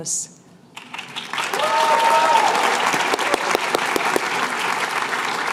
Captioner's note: cheers and applause